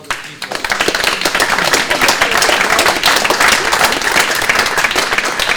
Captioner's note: audience clapping